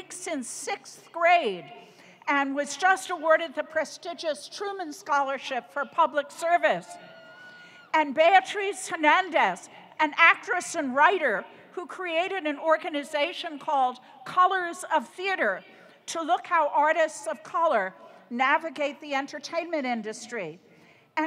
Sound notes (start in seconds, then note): 6.9 audience cheering